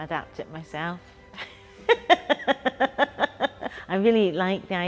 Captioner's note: laughs